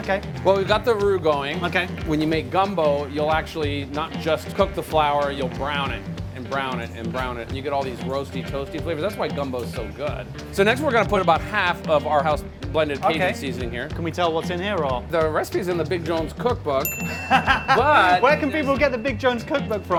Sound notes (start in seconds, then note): 16.8 sfx: bell ringing; 17.0 laughing